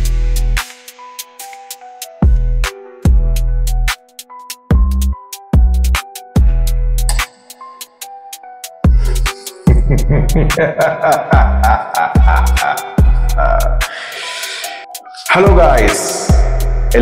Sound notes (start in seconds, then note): 8.9 laughs